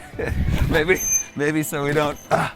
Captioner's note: chuckling